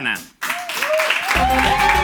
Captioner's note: applause